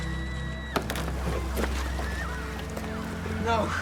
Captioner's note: distant screams